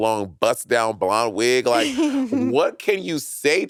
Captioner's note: laughing